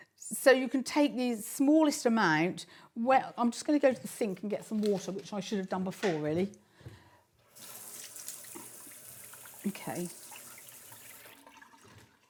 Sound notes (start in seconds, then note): 7.4 water running